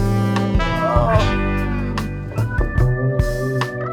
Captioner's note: exclaims